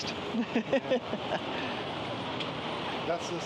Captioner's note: laughs